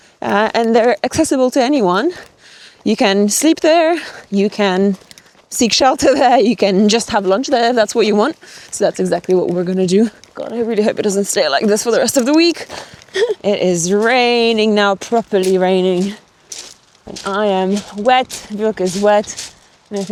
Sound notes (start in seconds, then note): 15.7 stones crunching